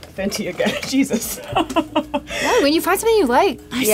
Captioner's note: laughs